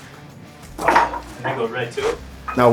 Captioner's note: weights clattering